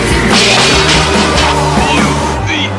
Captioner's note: crash!